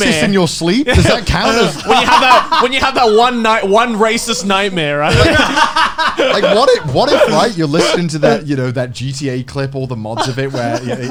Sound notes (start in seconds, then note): 5.0 Garnt laughing